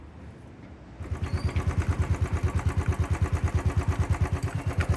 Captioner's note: engine running